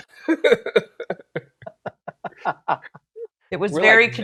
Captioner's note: laughing